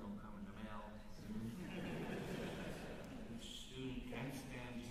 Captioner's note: chuckles